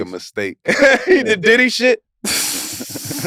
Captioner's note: laughs